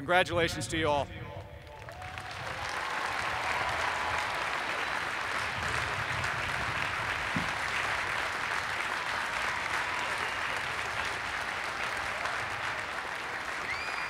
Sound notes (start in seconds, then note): 1.6 applause